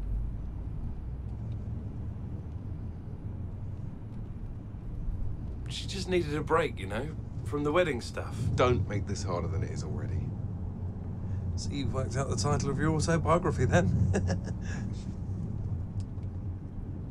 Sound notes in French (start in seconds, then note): 14.0 des rires